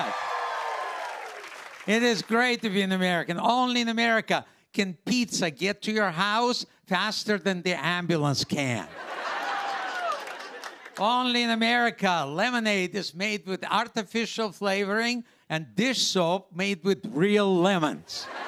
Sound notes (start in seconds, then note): 0.0 cheers and applause; 8.8 laughter; 18.3 laughter, cheers, applause